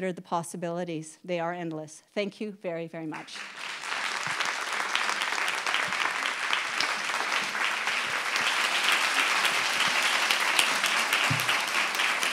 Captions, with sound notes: Have you considered the possibilities? they are endless thank you very very much (applause)